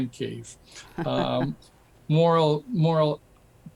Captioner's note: chuckles